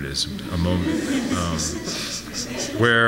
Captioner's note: audience laughs